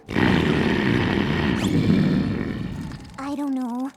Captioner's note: dragon snoring loudly